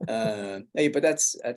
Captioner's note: laughs